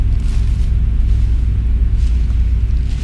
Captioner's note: footsteps fade away